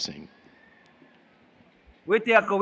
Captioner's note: foreign Language